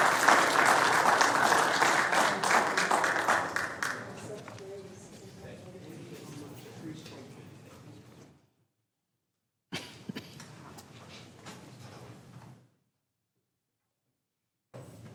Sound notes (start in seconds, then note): 4.2 applause; 4.2 laughter